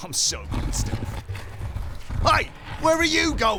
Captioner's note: rock scraping